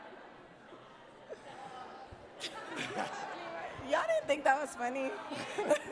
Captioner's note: audience politely laughs